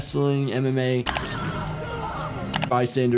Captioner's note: low tense music; witness screaming